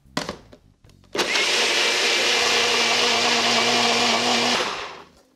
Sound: blender blending

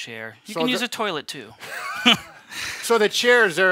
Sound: both laugh

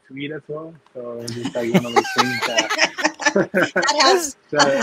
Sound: everyone laughing

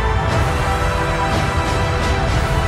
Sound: thunder clapping

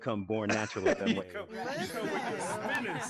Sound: group laughing

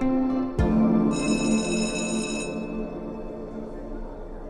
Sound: bell rings

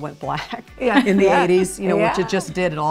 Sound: laughs

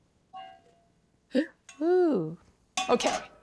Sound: gasps

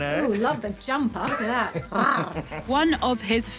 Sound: growling

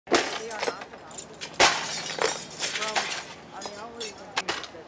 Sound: sound of glass breaking as residents remove items

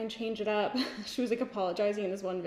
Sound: giggles

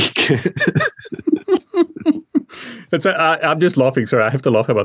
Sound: both laughing

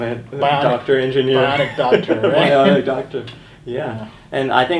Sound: laughing

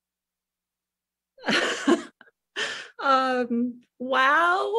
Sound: laughs

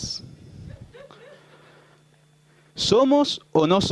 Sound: laughter

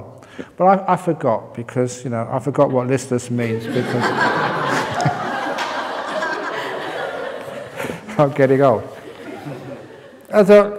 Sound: laughter

